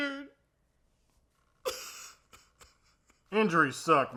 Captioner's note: crying